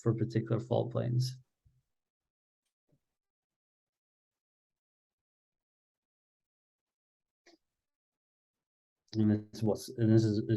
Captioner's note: silence